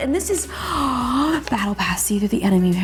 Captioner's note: gasps